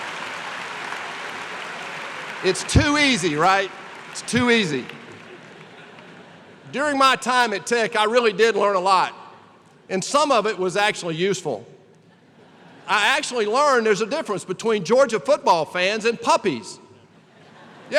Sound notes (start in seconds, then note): 0.0 laughter and applause; 12.0 laughter